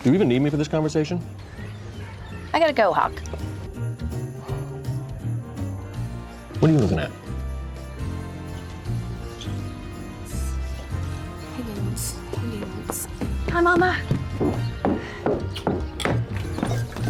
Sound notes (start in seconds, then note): 10.4 whispering to self